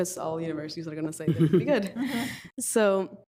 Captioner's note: group laughs